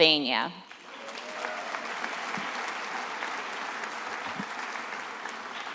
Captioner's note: attendees applauding